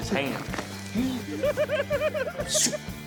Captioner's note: giggles